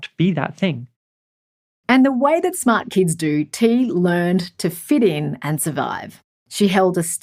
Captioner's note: voiceover